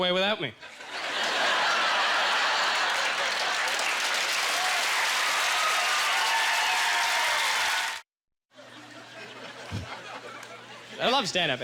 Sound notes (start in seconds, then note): 1.9 audience laughter; 5.3 chesrs d d plause; 8.6 audience chuckling